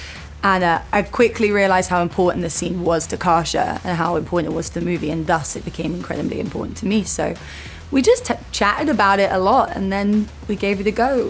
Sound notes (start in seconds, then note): none